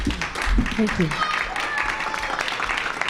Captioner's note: applause